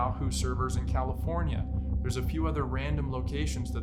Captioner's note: none